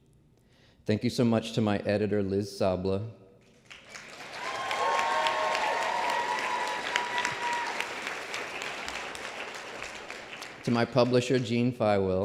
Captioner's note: applause